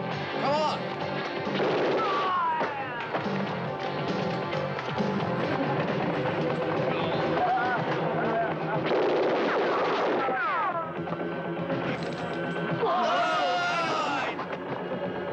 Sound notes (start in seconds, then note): 1.4 guns blasting; 1.5 men groaning